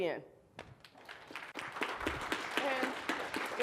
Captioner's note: applause